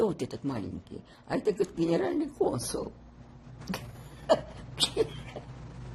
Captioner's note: laughing